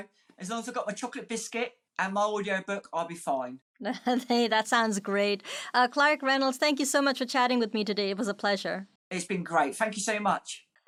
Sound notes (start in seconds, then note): 3.8 chuckling